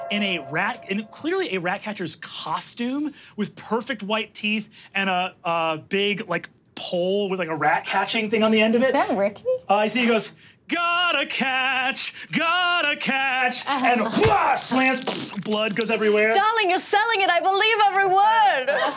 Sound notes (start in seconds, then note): 14.1 grunts; 18.7 all laughing